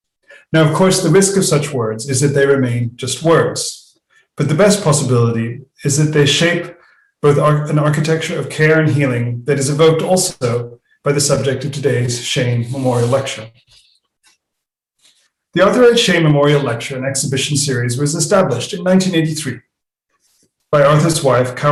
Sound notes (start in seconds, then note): 12.8 non-english speech